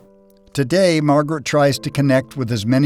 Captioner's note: voiceover